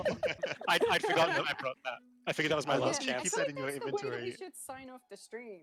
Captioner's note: laughter